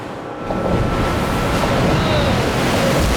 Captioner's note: wave crashes